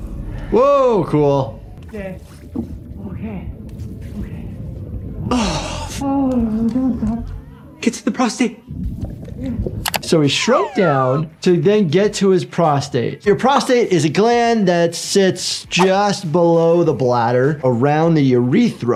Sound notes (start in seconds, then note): 5.6 Termite slapping